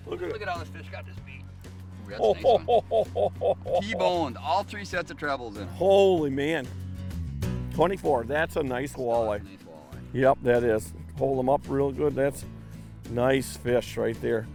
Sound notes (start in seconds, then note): 2.1 laughing